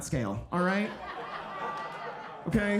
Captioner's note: audience laughing